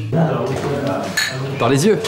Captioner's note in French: bruit d'entrechoquement